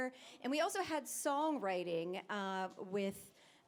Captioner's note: none